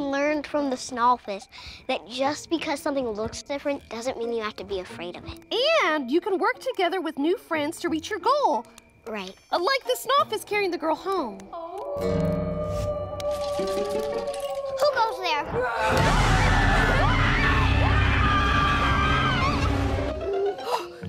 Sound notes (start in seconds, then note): 11.7 distant howling; 13.4 can rattling; 15.4 monster roars; 17.0 Sophie and Blueberry scream